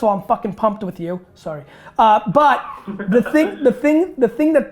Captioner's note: laughing